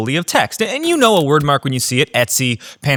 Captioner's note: keyboard clicking